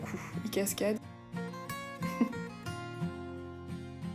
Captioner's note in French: rire